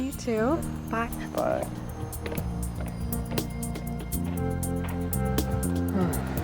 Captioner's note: sighing; soft expectant music